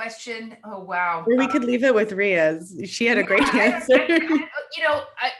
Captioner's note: laughter